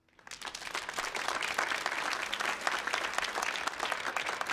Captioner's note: audience applauds